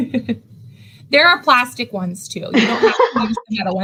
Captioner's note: laughs